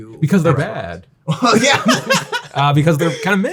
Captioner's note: laughing